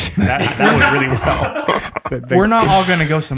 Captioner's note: group laughs